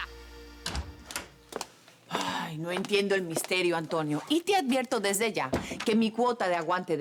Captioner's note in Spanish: Ruido al abrir la puerta